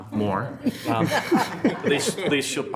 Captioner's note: attendees laughing